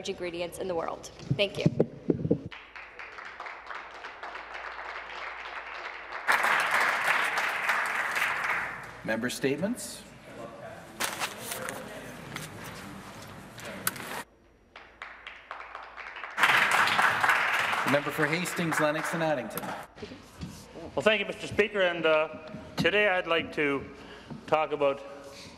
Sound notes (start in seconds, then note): 7.5 some Applause